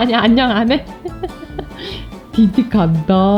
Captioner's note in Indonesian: tertawa